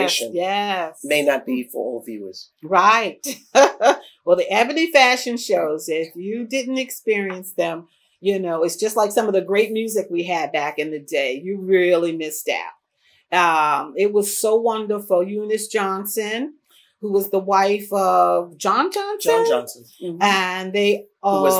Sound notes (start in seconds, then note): 3.5 laughs